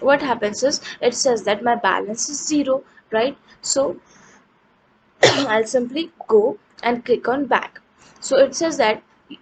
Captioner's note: coughs